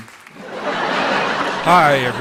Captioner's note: laughter